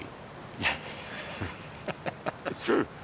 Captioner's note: both laugh